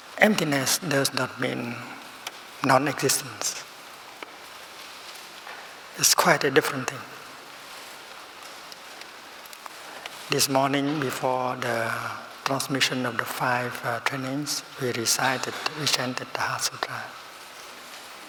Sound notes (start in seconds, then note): none